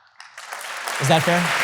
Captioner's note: audience applause